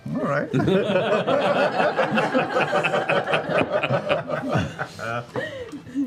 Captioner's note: laughter